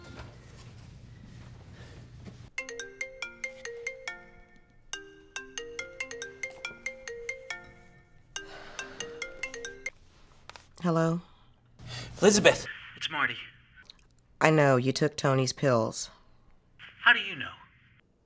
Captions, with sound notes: (phone rings) - Hello. - Elizabeth, its Marty. - I know, you took Tony's pills. - How do you know?